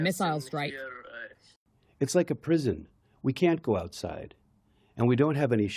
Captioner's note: through translator